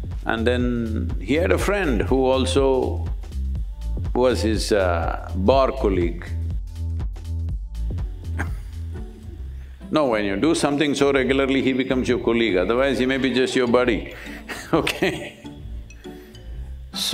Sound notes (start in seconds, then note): 8.3 laughs